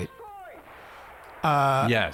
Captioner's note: gunshot blasting